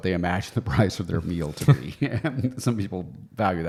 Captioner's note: both laughing